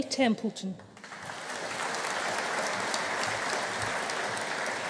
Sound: audience applauding

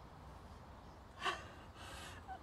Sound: sobbing

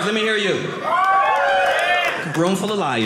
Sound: audience cheering

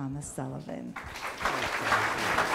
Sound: audience applauding

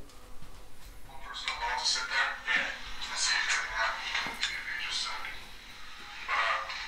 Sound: muffled voices over radio reverberating

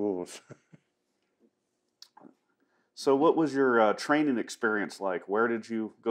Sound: laughs

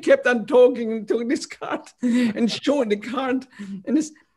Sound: laughter; laughter

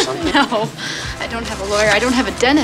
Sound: laughs

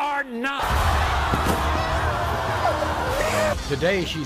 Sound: crowd jeers

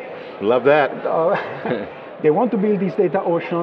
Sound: laughs

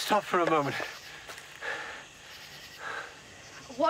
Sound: panting

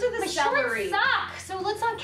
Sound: faintly speaking

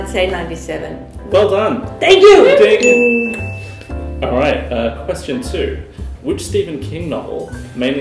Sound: ding!

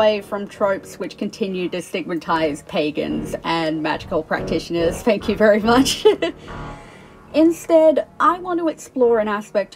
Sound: laughs

